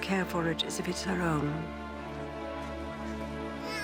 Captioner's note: cries